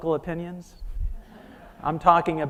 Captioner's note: audience laughing